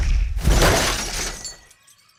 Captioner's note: crashes